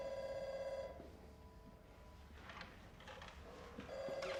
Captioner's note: phone ringing